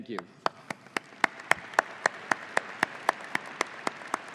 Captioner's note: audience applauding